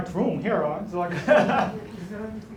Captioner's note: laughs